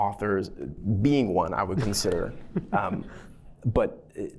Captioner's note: laughter